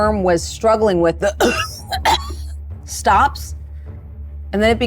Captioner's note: coughs